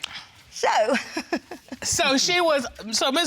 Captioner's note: chuckles